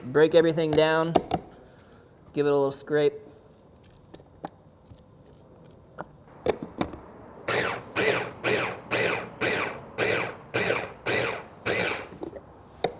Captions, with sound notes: Break everything down. Give it a little scrape. (lid clicks) (food processor grinding)